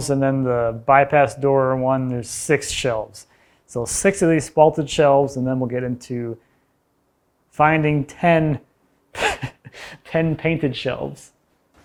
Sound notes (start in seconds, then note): 9.1 laughs